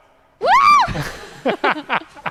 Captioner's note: screaming; laughing